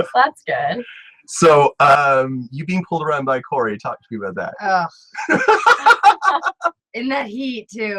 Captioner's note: laughs